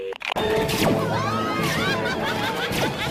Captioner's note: villagers screaming; Belinda laughing evilly